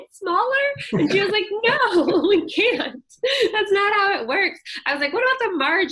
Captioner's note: laughter